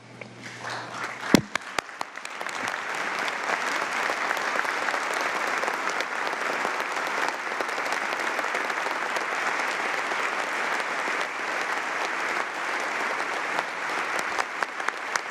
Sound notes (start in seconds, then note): 3.8 applause